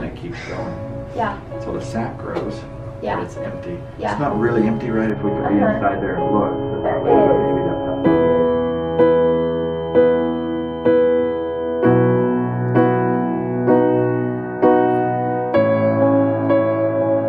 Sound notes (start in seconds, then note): 6.6 audio distortion; 8.4 somber music